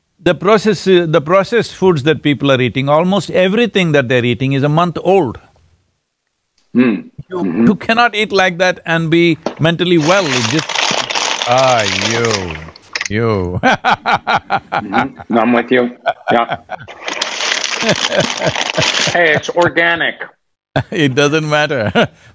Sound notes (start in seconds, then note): 13.2 laughs; 17.7 Sadhguru laughs